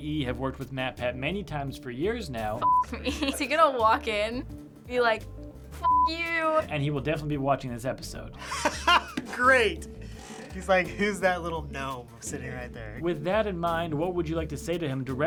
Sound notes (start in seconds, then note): 10.0 laughing